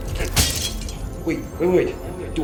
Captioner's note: glass breaking